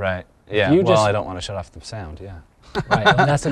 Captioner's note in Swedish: småskratt